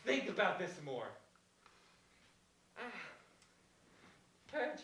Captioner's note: yawn